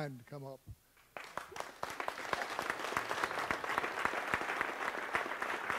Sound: audience applauds

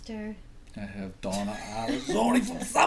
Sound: voiceover

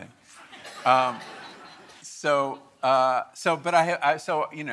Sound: audience laughing

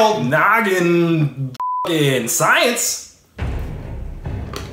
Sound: beep

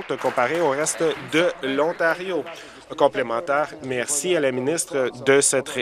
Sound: applause

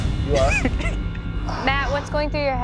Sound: laughs

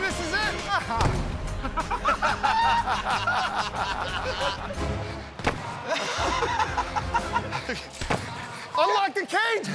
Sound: laughter

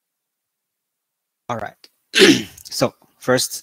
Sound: 咳嗽again

